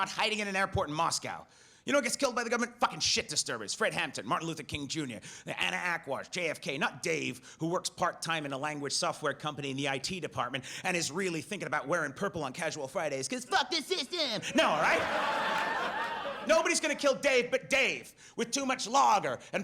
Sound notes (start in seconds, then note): 13.5 audience laughs